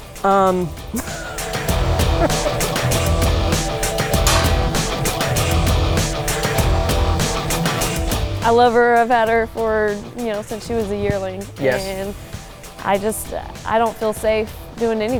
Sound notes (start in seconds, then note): 0.9 laughing; 4.0 rock music